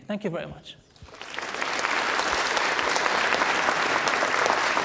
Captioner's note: applause